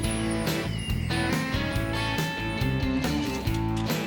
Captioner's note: wind chimes